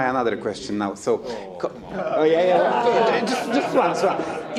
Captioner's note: attendees chatting